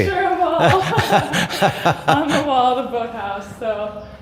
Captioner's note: laughing